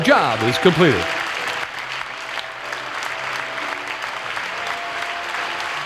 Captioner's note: crowd applauds and cheers